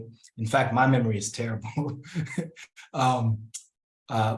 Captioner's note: laughs